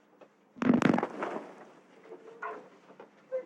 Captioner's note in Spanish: Explosión